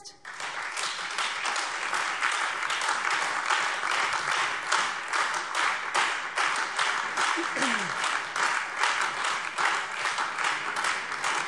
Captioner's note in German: Beifall Freie Demokraten, SPD, DIE LINKE und vereinzelt AfD